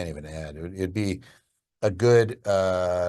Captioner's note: speaks gibberish